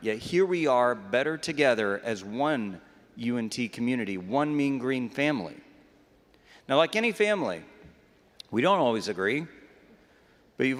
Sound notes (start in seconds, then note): none